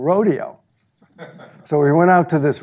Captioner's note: audience laughs